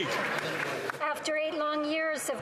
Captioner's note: some Applause